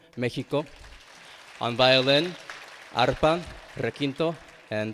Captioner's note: attendees clapping